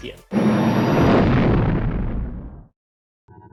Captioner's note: explosion